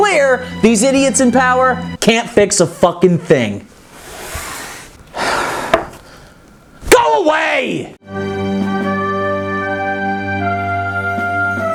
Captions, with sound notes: these idiots in power can't fix a fucking thing. (sighs) Go away! (somber music)